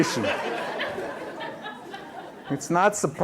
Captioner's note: laughter